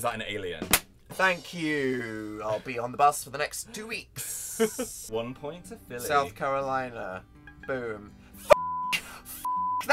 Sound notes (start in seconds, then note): 7.4 beep beep